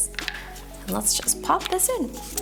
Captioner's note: case clinks